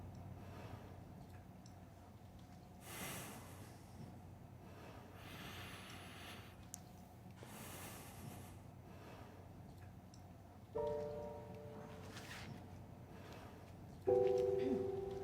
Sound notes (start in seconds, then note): 2.4 sighing; 10.7 slow tempo music